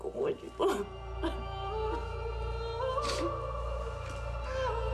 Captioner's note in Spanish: sollozos